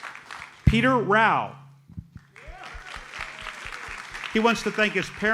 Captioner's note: audience applauds